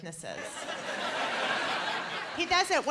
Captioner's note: laughter